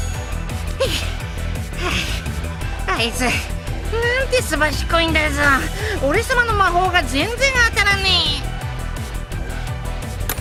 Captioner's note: pant pant